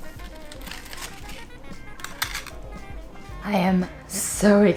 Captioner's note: chips scraping